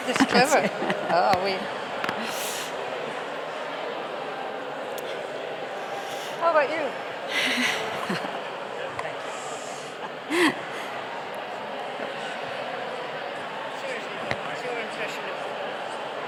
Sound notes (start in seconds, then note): 1.7 indistinct chatter